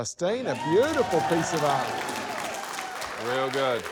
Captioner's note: cheering